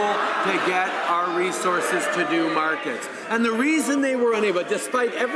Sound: applause

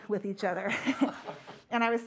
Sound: laughter

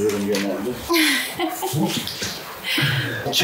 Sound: laughs

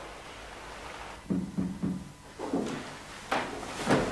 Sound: knock at door

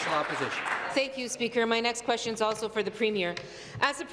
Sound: applause

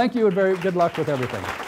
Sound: applause

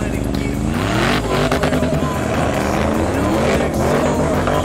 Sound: engine roaring

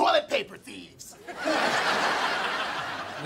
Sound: laughing

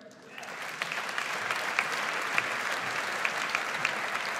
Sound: audience applauds

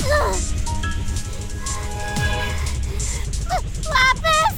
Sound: short, panicked breaths

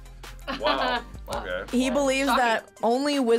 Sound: laughs

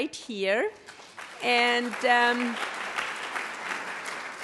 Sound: audience applauds

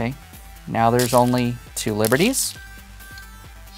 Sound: stones rattling

